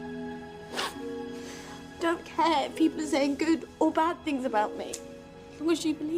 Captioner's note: sniffles